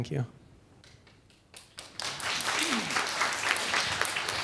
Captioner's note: applause